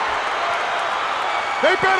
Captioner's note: crowd cheering